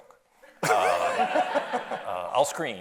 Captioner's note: audience laughs